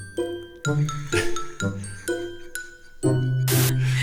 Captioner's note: laughing